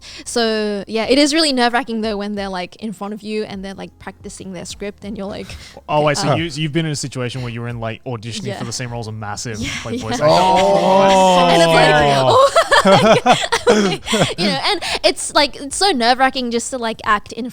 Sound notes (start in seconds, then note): 9.7 boys exclaiming; 13.0 laughing